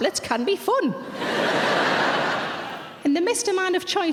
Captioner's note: audience laughs